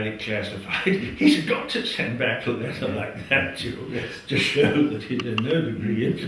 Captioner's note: laugh